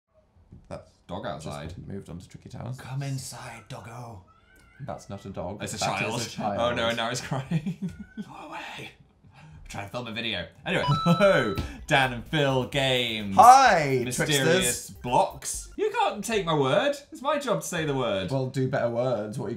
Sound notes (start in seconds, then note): 4.2 crying; 8.1 whispers